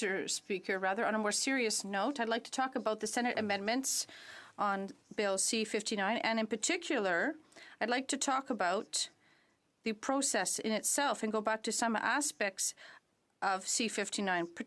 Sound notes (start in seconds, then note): 4.7 speaking French